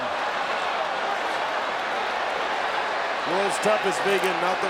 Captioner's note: crowd exclaiming